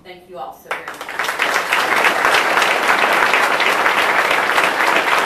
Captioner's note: audience applauding